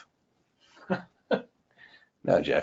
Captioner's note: person chuckles